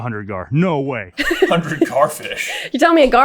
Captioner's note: giggling